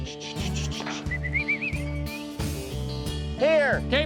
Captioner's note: whistling